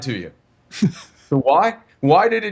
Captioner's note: laughing